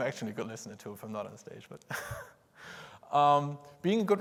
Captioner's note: laughs